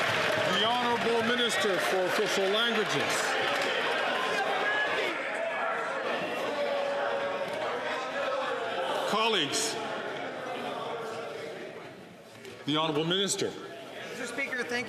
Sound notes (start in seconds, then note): 4.8 some Applause